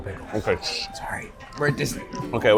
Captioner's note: whispers